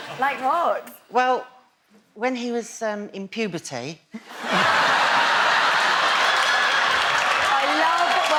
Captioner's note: laughs